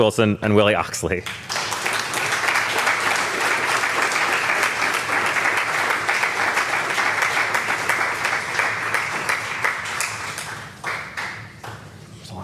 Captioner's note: applause